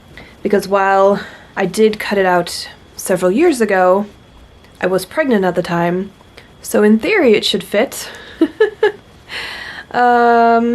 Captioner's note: laughs